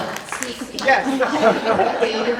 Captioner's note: applause